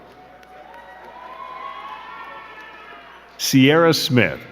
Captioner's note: crowd cheering and clapping